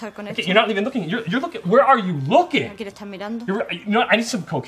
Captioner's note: speaks in english